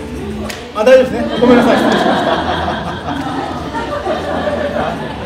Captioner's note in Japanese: 一同笑